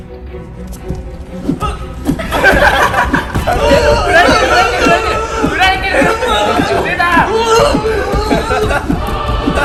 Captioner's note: being violently shaken